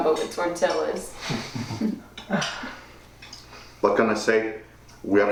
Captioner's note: Manny and Ramon chuckling